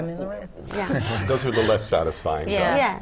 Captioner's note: laugh